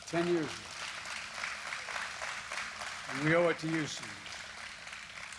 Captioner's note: applause